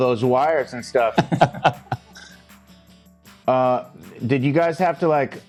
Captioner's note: laughing